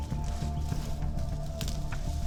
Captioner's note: rustling leaves